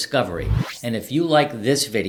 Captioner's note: wind whooshing